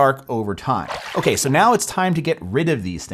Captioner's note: water splashing